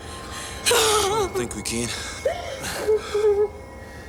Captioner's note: Jodie sobbing; Graham groans softly